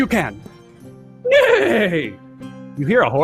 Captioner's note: imitates a horse neighing